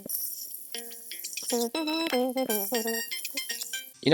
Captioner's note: doot doot dooting the build station theme again